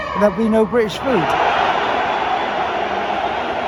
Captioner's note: the crowd roars and boos